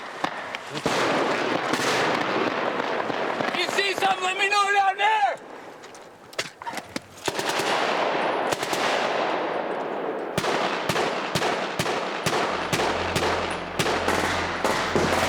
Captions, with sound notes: - If you see something let me know down there. (gunfire) - [Voiceover] In combat, the first thing to die